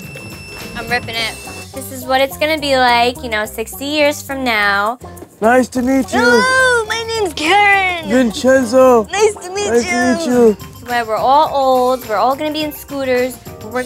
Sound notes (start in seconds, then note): 5.1 old man voice; 6.5 old woman voice